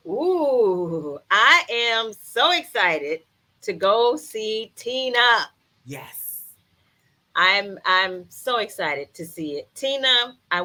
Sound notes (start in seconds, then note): 5.4 claps hands